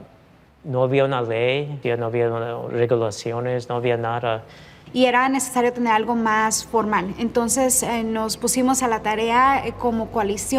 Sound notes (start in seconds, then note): 5.1 speaking in Spanish